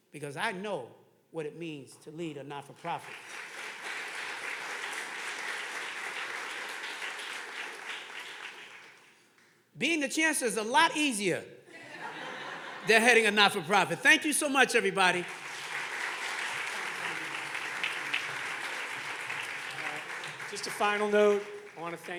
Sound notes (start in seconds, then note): 6.4 audience clapping; 16.5 audience laughing; 18.9 audience clapping